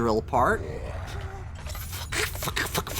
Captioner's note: monster growl